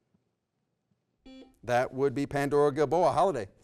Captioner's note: beep